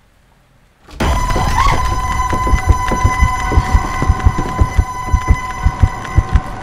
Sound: door starts rattling

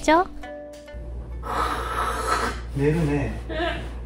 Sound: snoring

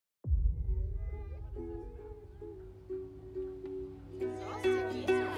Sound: guests chattering; ukulele playing

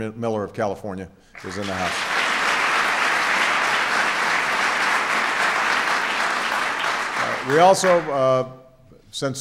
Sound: applause

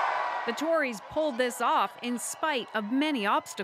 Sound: cheers and Applause

